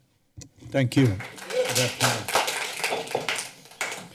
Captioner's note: clapping